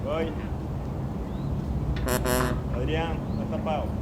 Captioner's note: non-english speech